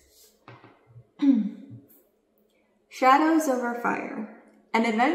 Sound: clears throat

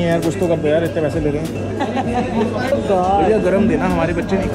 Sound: laughing

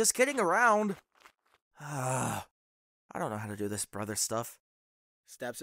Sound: frustrated sigh

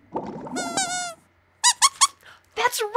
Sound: squeaks squeaking

